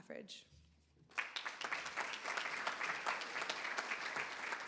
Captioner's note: everybody applauds